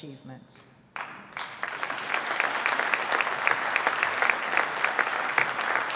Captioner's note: audience applauding